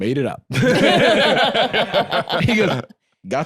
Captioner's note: all laughing